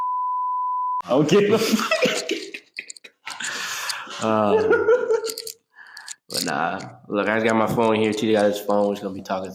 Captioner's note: laughing